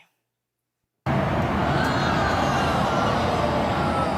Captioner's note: audience groans